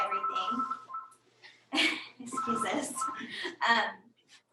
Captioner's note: phone ringing